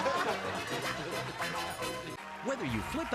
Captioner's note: laughter